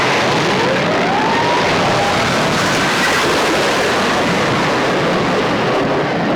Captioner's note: booming; crashing